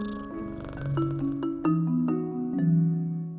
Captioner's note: cat meows